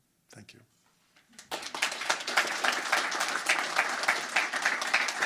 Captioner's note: crowd applauding